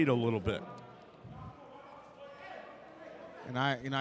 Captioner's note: yelling